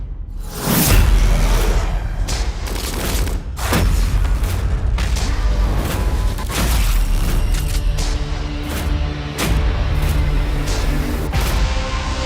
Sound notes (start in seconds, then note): 1.1 zombie roaring; 8.3 tense music playing